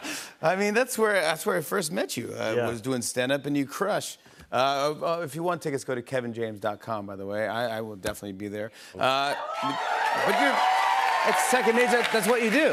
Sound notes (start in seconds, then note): 9.2 cheers and applause